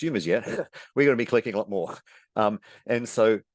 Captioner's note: chuckles